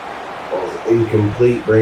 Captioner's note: crowd Noises